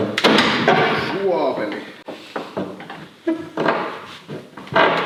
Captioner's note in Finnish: ähinää